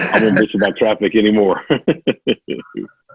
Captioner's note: laughs